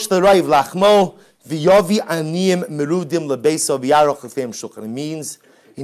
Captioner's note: Hebrew